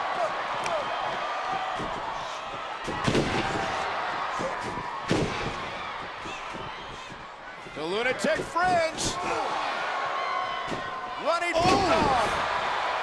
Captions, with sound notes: (crowd cheers) The Lunatic Fringe! Running Bulldog! Oof!